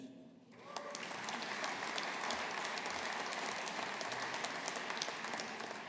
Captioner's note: audience applauding